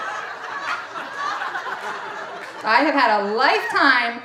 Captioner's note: audience laughing